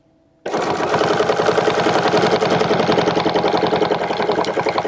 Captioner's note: machine whirring